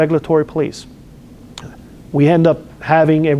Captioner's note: lip smacks